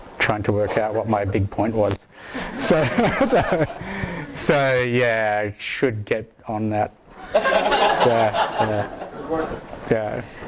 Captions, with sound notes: trying to work out what my big point was. (laughs) So, yeah, I should get on that. (laughter)